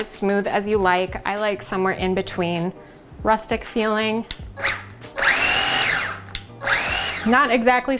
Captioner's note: food processor noise